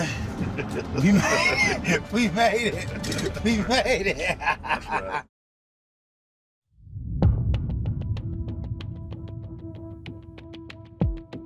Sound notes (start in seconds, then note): 2.6 laughs